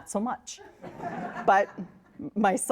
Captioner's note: audience laughs